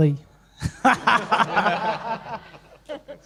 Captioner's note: laughs